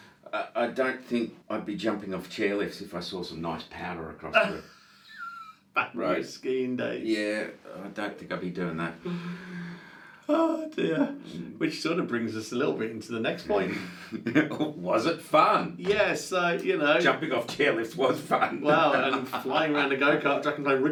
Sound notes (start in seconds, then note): 4.3 laughing; 13.6 laughing